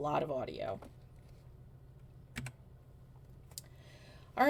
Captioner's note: keyboard clicks